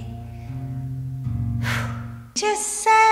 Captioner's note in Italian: soffio